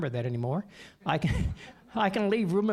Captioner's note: audience laughing